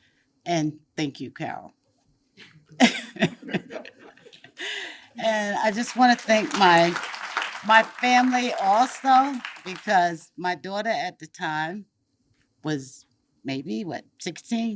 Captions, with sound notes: And thank you, Carol. (attendees chuckle) And I just want to thank (audience applauds) my family also because my daughter at the time was maybe, what, 16, 17